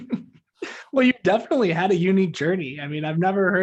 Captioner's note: laughs